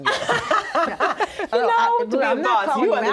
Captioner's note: laughing